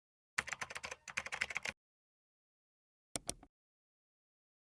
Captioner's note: keyboard keys clacking